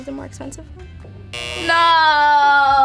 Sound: buzzer beeps

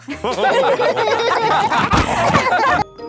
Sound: all laughing

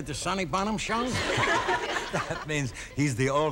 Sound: laughing

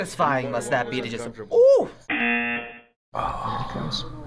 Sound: buzzer rings

